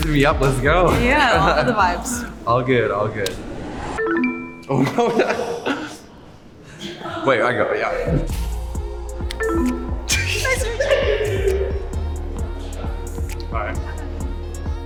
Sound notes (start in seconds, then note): 4.0 electronics beep; 4.7 laughs; 8.0 upbeat music; 9.3 electronics beep; 10.1 people laugh